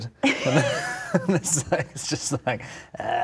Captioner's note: laughing